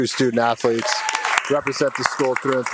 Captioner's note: audience applauding and cheering